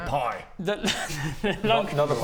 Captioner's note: laughs in regret